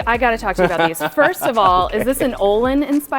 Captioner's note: laughing